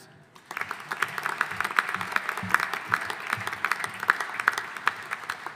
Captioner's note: audience applauding